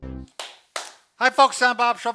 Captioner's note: clapping